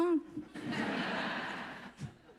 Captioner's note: laughs